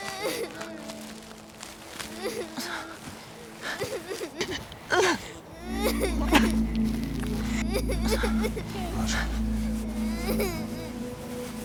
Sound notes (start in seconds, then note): 0.2 Meg cries; 4.8 Rachel moans; 5.5 Meg cries